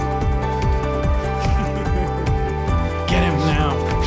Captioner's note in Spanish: Risas